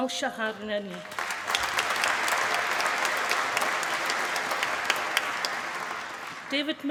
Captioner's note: applause